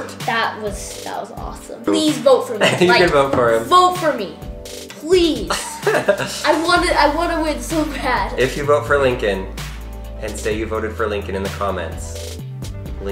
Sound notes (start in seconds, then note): 5.5 laughs